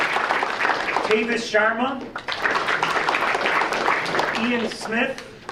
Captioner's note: audience applauding